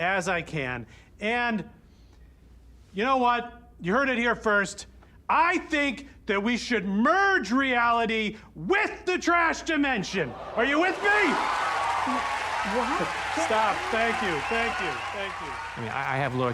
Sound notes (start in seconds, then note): 8.9 audience gasps; 10.3 audience cheering, applauding